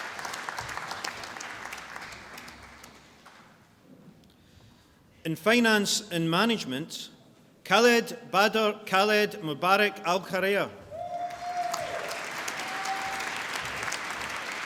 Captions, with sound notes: In Finance and Management, Khaled Bader Khaled Mubarak Algherair. (CLAPPING AND CHEERING)